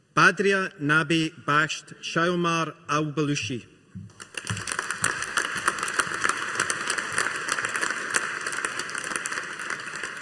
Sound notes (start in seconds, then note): 4.1 audience applauding